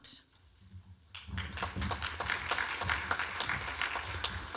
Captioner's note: applause